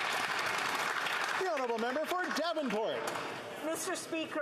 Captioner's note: applause